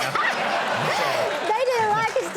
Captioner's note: audience laughing